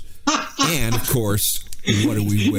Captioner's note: laughing